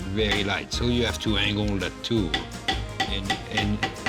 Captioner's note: banging